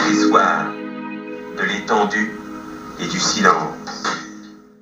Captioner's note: voiceover of man speaking in french